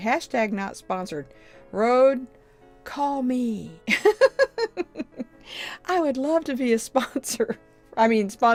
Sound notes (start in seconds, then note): 3.9 chuckles